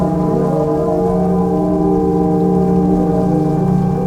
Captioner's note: sirens blare, crackling of fire